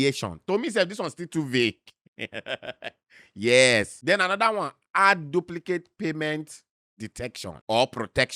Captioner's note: laughs